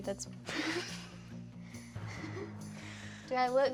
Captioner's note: laughing